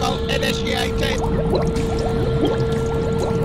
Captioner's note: bubbling sounds